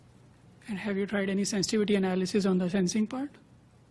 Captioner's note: voiceover